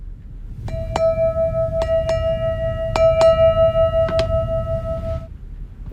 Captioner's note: janeway hits hearing bell